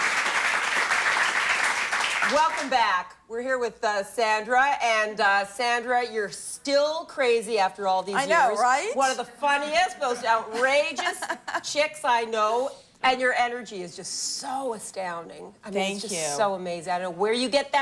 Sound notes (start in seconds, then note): 0.0 applause